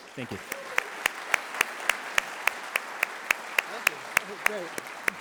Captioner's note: audience clapping